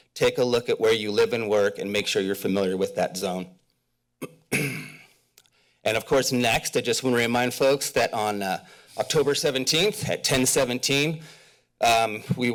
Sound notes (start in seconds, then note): 4.2 clears throat